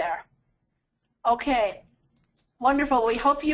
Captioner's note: voiceover